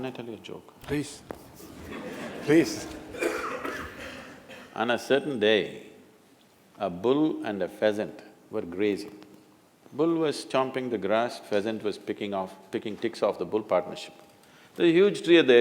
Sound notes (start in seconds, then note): 1.6 laughter